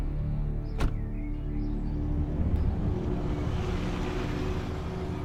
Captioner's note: car door slams